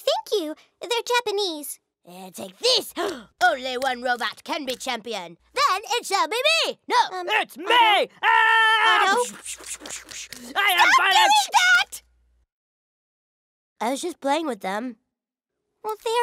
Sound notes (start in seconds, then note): 7.1 in deep voice; 14.1 in normal voice